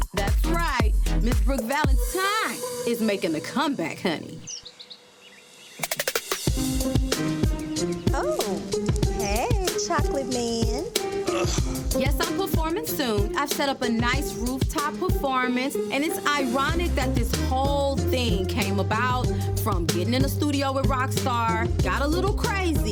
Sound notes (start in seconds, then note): 4.7 birds chirping; 6.7 gentle upbeat music